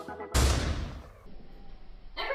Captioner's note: loud explosion